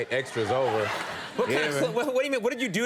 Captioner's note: audience laughs